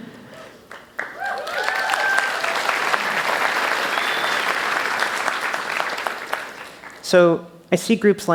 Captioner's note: applause